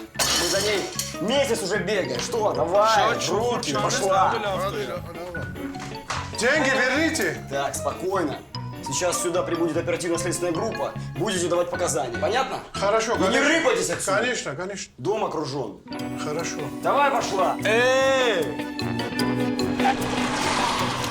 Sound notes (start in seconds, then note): 4.3 speaking Armenian